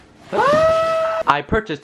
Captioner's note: screaming